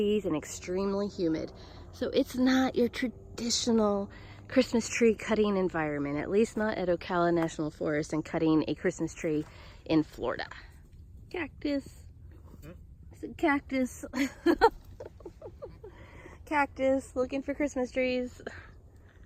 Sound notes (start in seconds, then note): 14.2 laughs